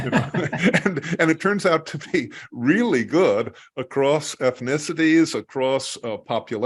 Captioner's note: laugh